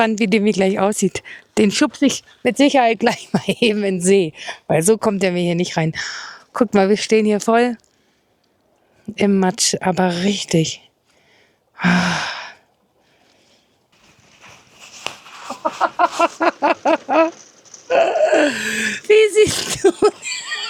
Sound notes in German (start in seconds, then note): 11.7 seufzt; 14.5 japst; 18.5 japst; 19.6 gelächter